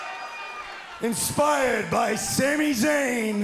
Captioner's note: cheers and applause